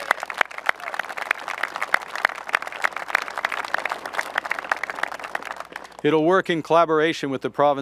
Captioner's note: applause